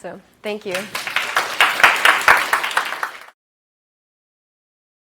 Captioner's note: applause